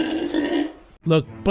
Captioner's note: pig noises